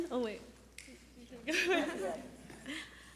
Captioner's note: giggling